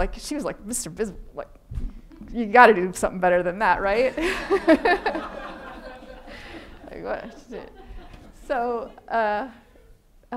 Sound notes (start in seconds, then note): 4.2 laughing; 4.2 audience laughing